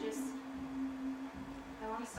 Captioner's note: humming stops